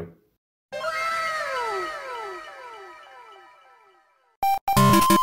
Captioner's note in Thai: เสียงเอฟเฟค ว้าว